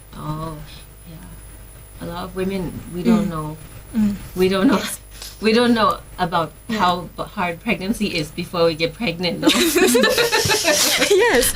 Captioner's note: laugh